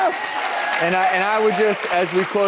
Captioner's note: applause